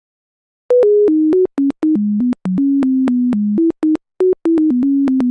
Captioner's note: beeping